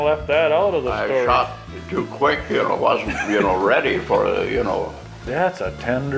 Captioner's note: laughter